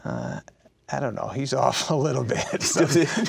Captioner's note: laughing